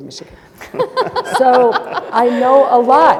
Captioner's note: panelists laughing